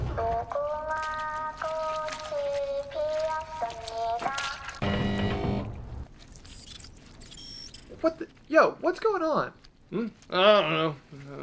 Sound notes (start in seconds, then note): 4.8 mechanical noises